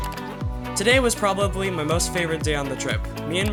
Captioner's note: voiceover